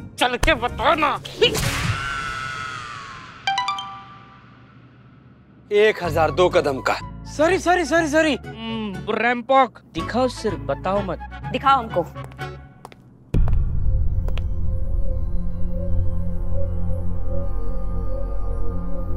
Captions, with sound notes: Come on! Out with it! [comical music] [phone chimes] 1002 steps. Sorry! Just show them what happened. Show it to me. [tense music]